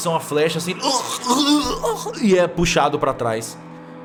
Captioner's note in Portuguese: engasgos